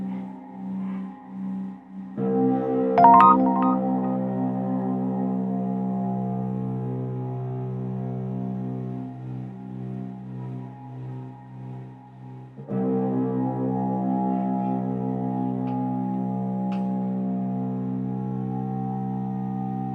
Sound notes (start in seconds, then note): 3.0 text sound; 4.7 dark music